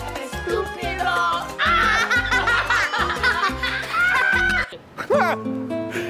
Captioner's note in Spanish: lele pons y mateo riendo